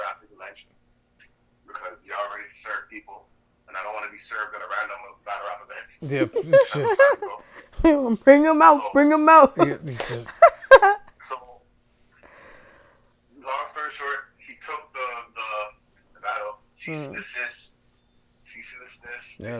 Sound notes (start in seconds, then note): 6.0 laughs; 9.0 laughs